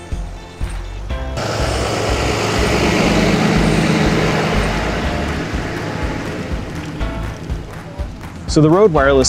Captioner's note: loud truck engine running